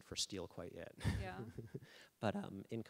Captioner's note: laughing